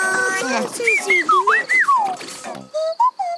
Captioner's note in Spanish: pía